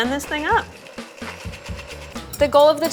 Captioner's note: blender running